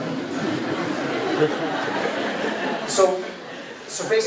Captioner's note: crowd laughing